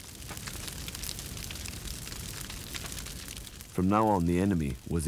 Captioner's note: fire crackling